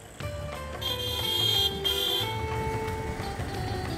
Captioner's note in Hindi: बजते हुए हॉर्न